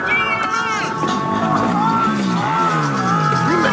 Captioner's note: voice over speaker